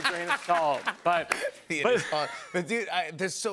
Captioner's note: laughs